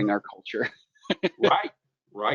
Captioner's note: laughs